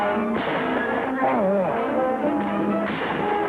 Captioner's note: man grunts